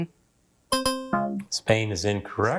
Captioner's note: buzzer dings